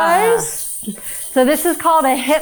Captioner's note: crew member chuckling; hip scarf jingling